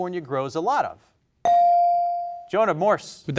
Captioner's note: bell rings